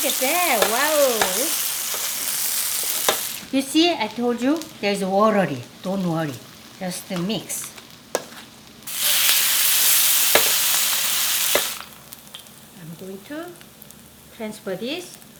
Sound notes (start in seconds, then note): 9.4 sizzling